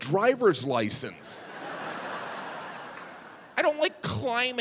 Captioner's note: audience laughing